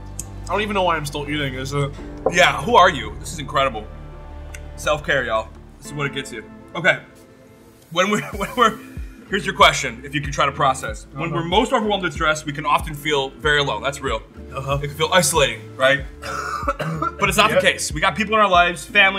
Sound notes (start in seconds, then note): 16.2 coughs